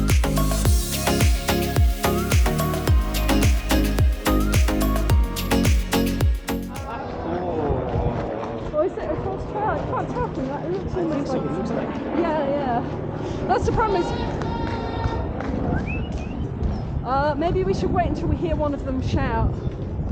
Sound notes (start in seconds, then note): 15.7 whistle